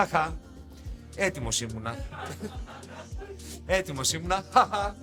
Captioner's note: laughs